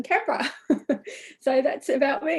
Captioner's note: laughs